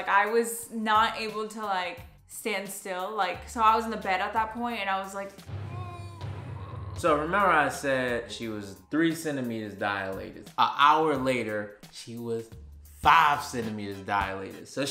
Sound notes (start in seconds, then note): 5.6 groans